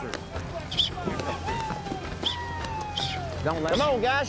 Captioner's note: whistling